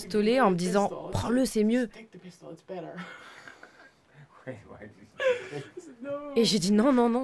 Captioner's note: embarrassed laughter